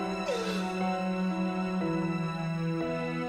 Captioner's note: sobs